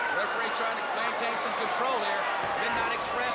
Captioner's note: crowd chatter